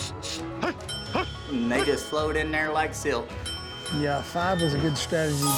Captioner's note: dinging